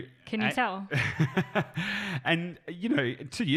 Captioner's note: laughs